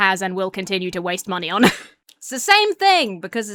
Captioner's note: laughs